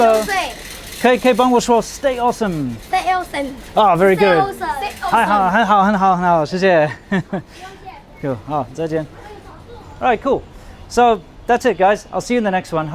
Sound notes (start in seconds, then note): 7.4 laughs